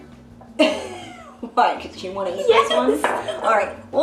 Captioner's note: chuckles